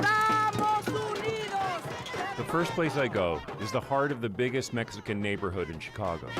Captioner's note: chanting